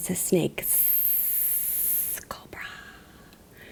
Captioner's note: hisses